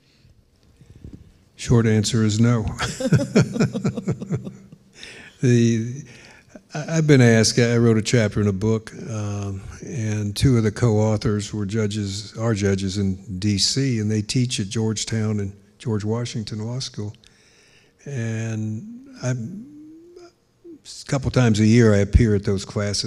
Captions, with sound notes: Short answer is no. (laughing) I've been asked. I wrote a chapter in a book and two of the co-authors are judges in DC and they teach at Georgetown and George Washington Law School. And a couple of times a year, I appear at those classes